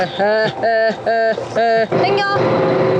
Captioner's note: laughter what's going on